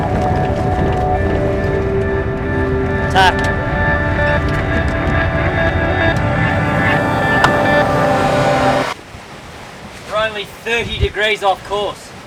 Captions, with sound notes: (sail flaps in the wind) Tight. (sail flaps in the wind) We're only 30 degrees off course.